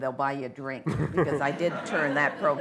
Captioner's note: laughter